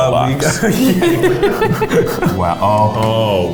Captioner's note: laughing